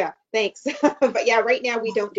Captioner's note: laughs